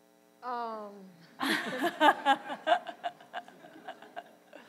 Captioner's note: laughter